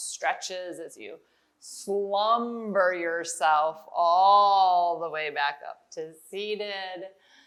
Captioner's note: none